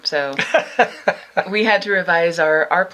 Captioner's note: laughs